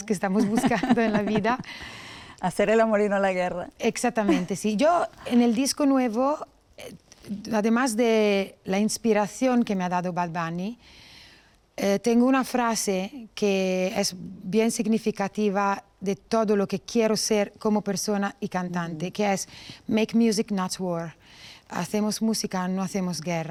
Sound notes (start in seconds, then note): 0.4 laughter